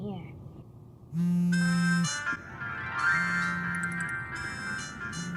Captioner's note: cell phone vibrates and rings